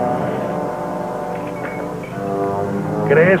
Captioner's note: badges clank on desk